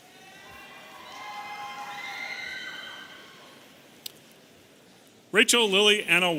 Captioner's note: audience cheering